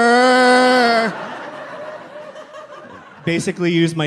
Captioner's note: crowd laughs